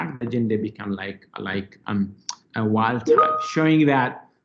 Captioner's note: computer bleeps